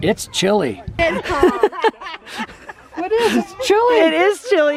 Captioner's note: laughing